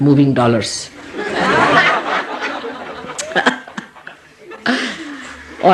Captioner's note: all laugh